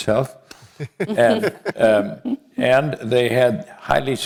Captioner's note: laugh